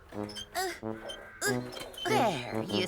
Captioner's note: grunting